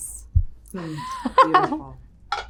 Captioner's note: Dakota laughing